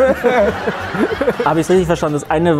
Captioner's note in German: Gelächter